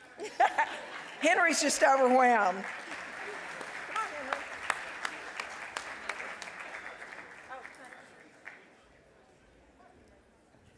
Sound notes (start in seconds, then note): 0.3 laughs; 3.3 applause